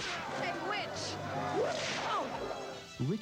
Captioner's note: whip cracks